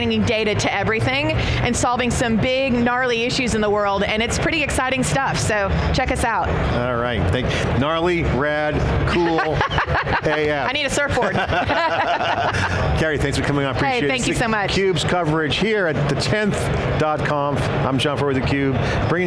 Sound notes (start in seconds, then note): 9.1 laughs